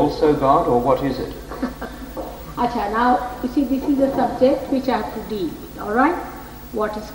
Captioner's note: laughing